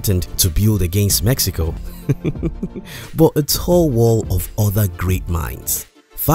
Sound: hahaha…

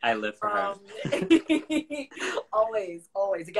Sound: both laugh

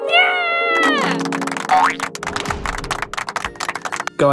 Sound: clapping

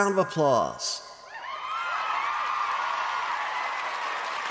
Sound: audience cheering

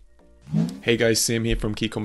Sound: air whooshing

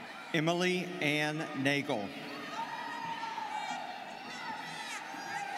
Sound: students cheering

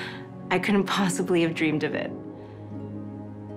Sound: none

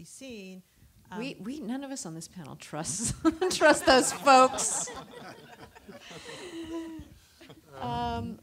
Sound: laughter

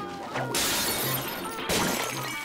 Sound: shattering

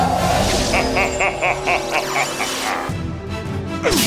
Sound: laughing

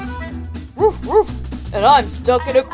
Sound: Krypton barking

